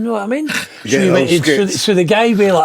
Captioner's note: laughing